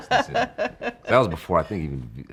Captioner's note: laughing